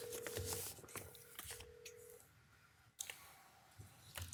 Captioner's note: phone ringing